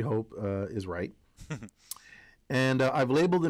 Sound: laugh

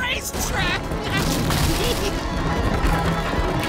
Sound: laughing

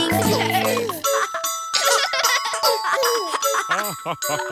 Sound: kids chuckling

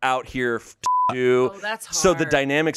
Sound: beep

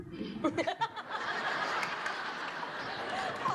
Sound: laughter

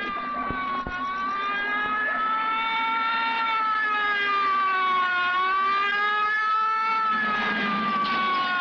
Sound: police siren blares

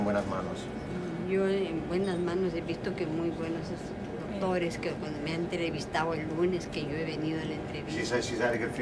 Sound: Spanish

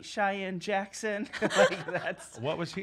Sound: laughter

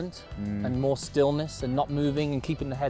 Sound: humming

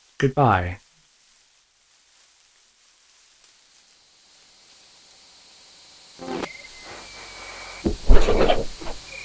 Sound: strange noises signal Very Unfortunate Tidings for the future

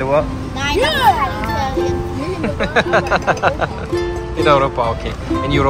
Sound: speaking German; laugh

